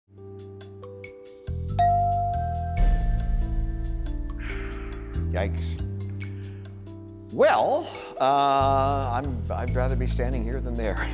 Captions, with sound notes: (smooth music) (bell rings) (man exhales) - Yikes. Well, uhhh I'd rather be standing here than there,